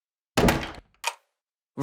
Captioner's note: door closes